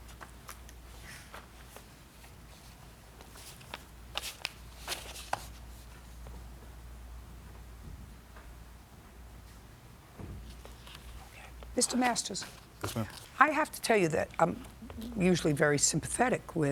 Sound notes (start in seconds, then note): 4.2 papers rustling